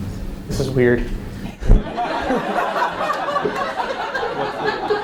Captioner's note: audience laughs